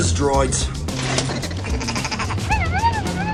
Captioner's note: buzz droids laughing